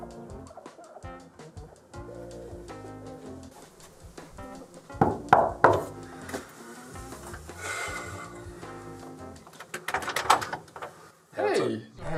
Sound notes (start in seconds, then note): 4.9 knocking; 7.0 sighing; 9.4 door lock rattling